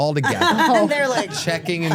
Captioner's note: laughs